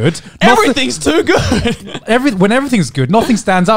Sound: chuckling

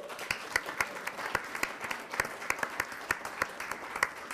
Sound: attendants clapping

